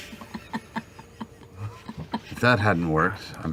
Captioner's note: laughs